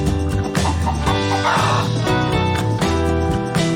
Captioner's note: chicken clucking